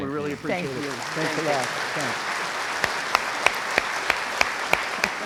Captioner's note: crowd applauds